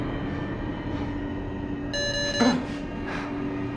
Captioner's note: beeping sound; suspenseful music